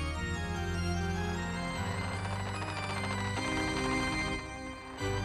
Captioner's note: coffin lid creaking